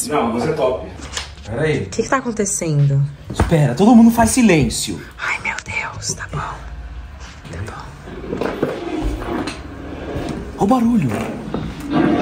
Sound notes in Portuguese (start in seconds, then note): 5.1 sussurra